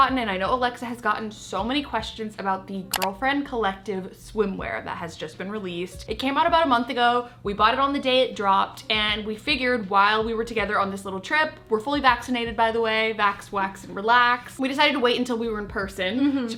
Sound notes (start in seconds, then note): 2.9 mouse click sound